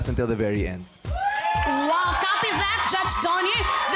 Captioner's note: audience cheering